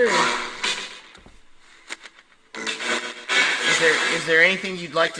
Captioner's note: radio static